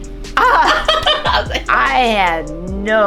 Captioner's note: laugh